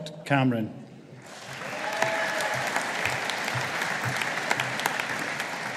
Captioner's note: audience applauding